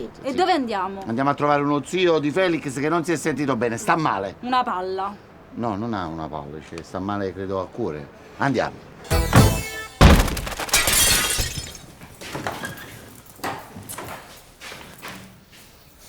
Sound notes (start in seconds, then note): 9.0 glasses breaking, loud crashes